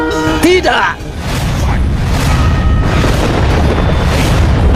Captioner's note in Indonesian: lonceng